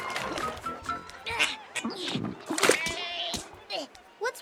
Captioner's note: Milo grunts